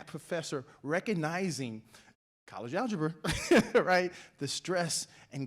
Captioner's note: laughs